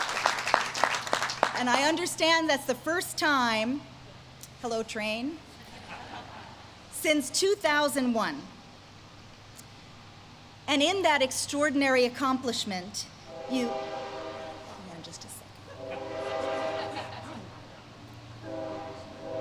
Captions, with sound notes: And I understand that's the first time-- Hello train, (audience laughs) since 2001, and in that extraordinary accomplishment-- (train whistles) Hold on just a sec.